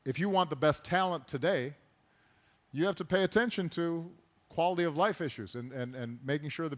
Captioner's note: none